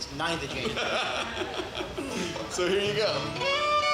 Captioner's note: laughs